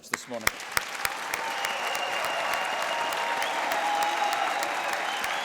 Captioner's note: applause